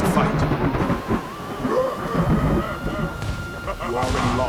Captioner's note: thunderclap